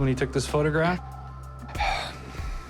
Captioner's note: sighs